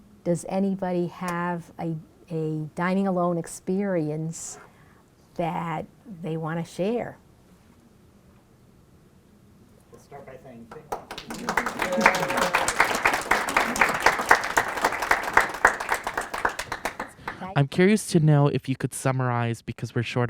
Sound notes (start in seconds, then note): 10.7 applause